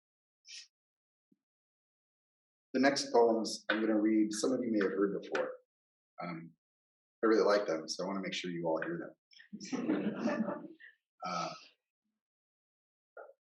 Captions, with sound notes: The next poems I'm going to read, some of you may have heard before. I really like them, so I want to make sure you all hear them. [laughter]